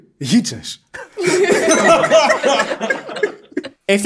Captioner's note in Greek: γέλια